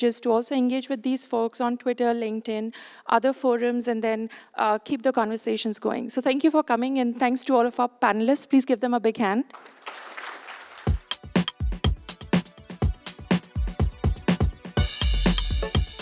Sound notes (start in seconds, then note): 9.5 applause